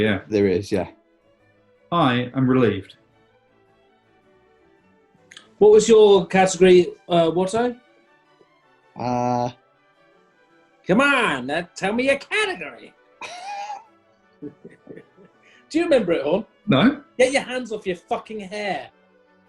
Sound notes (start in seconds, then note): 10.3 EDWARD ROBINSON/ 1920's CHICAGO GANGSTER ACCENT; 13.2 chuckling